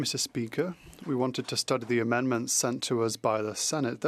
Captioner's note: speaking French